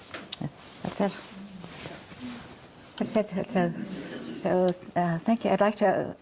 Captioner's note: speaking faintly